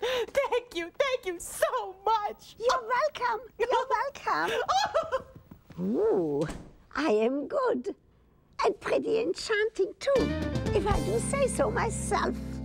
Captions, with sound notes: THANK YOU, THANK YOU SO MUCH! YOU'RE WELCOME, YOU'RE WELCOME. ( giggling ) WHOO! I AM GOOD. AND PRETTY ENCHANTING, TOO, IF I DO SAY SO MYSELF.